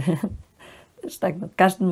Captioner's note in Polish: śmiech